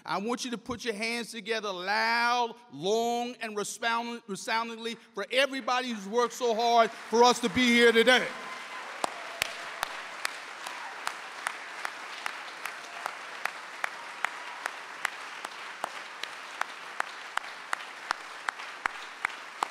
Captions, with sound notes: I want you to put your hands together loud, long, and resoundingly for everybody who's worked so hard for us to be here today. (claps) (audience applauding)